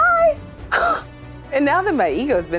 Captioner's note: chuckles